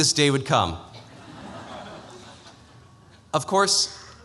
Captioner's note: laughter